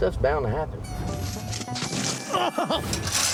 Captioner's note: flashback: thud, groans; clanking sound, groans